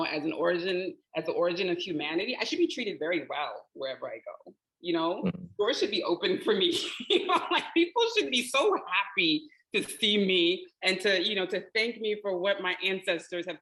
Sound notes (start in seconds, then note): 7.2 laughing